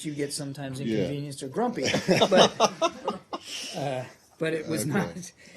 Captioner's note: laughter